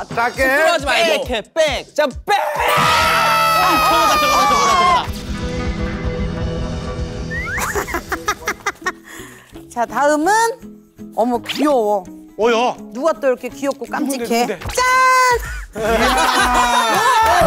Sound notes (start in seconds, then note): 2.4 screaming; 15.7 burst out in laughter